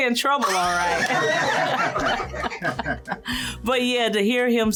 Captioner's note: laughter